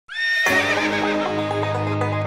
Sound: horse neighing; country music playing

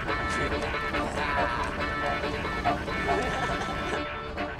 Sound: chuckles

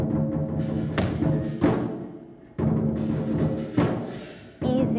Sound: harsh drumming; foot stomps

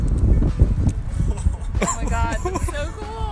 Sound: laughing

